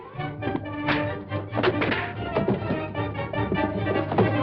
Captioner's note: fighting noises